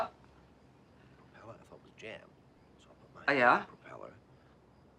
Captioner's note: indistinct chatter in kitchen